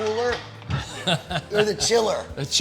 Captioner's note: laughing